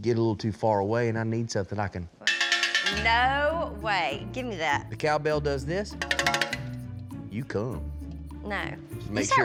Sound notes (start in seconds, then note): 2.2 cow bell ringing; 6.0 ringing